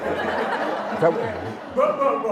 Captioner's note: laughter